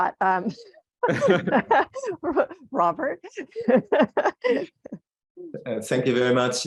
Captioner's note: laughs